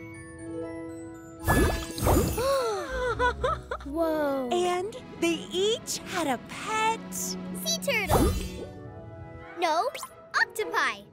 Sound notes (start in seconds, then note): 2.5 gasping